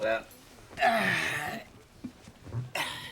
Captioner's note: sighs